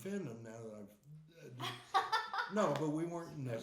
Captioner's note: laughing